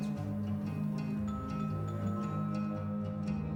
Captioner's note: doorbell ringing